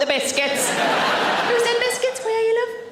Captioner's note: audience laughing